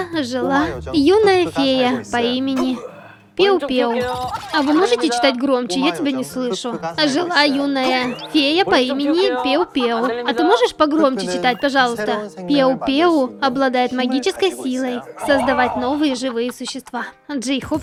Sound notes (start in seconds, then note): 4.1 laughing out loud